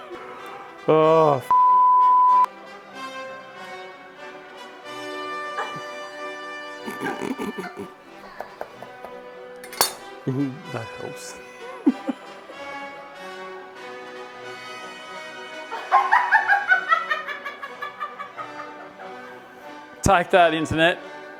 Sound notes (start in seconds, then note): 6.7 laughing; 15.8 laughing